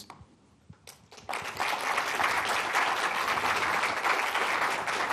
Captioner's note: applause